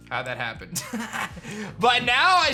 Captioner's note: laughs